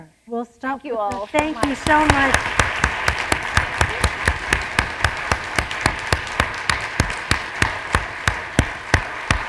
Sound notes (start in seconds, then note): 2.4 applause